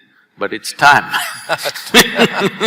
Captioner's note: laughter